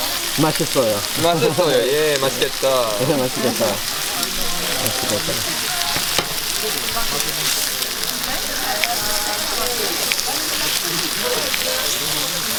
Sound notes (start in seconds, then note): 3.7 sizzling sounds